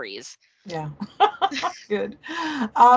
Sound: laughing

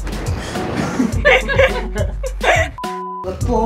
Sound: giggles; laughing; beep

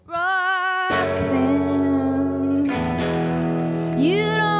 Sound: audience applauding

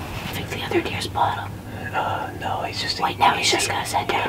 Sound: whispering

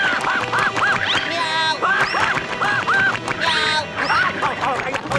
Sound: meowing, screaming; screaming

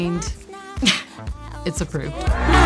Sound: laughs

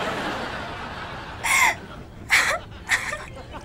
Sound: crying

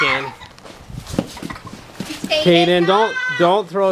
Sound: laughing

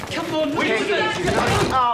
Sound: yelling

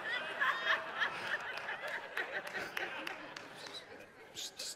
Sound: congregation laughs and applauds

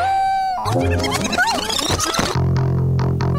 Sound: groaning; barking; upbeat music begins

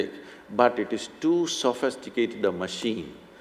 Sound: none

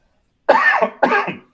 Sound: coughs

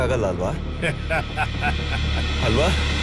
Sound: laugh

